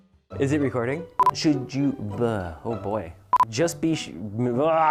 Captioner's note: beeping; beeping